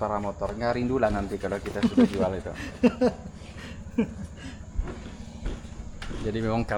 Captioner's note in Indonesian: tertawa